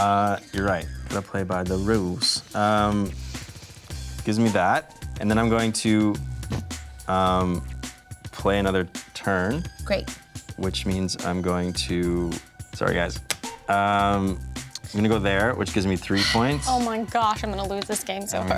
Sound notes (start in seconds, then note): 13.7 tile clicks hard on board